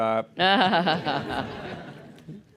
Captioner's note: laughter